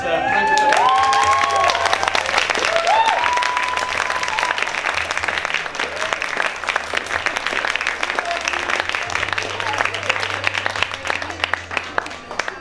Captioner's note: applause